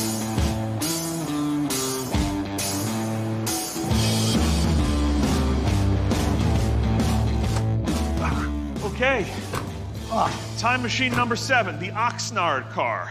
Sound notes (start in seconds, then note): 8.1 groans